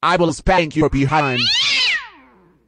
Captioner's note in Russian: Крики Гарфилда